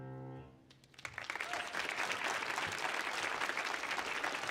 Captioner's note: audience applauds